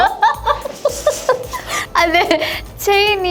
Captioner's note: laughter